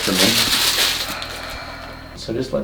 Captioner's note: patient breathes out